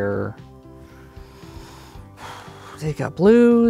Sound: exhales

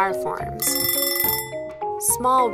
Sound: ringing kitchen timer

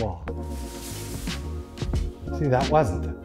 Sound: squishing & swishing

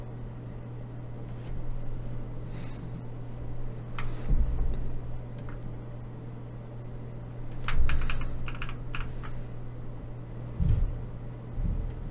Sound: typing

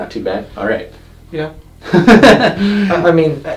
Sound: laughs

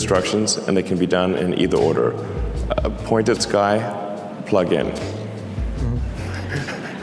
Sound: laughs

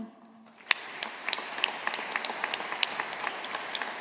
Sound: audience applauding

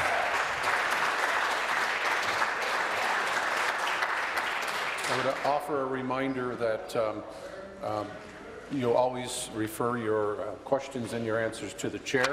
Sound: applause

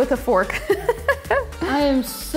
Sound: laughs

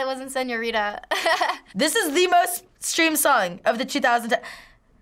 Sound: chuckles

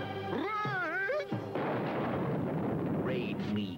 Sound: explosion

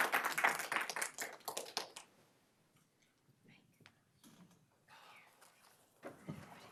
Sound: applause

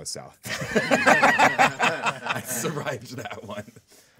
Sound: group laughing

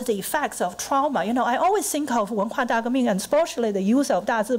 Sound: foreign language

